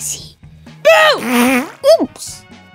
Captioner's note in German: Furzgeräusch